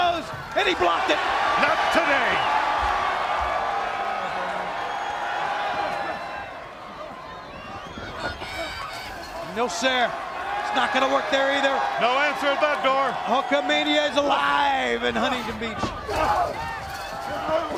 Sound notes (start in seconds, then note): 5.9 crowd chatter